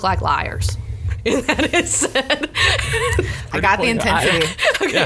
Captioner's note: laughs